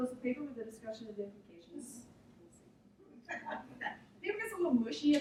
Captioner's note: laughter